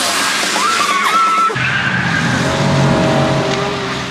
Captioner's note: car skidding